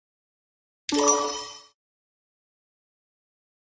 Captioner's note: sonido de timbre correcto